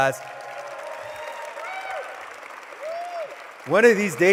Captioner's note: applause